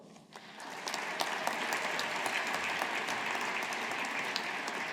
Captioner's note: audience applauding